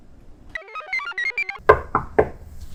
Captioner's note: computer chirps; door knocks